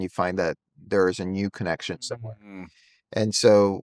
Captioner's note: hums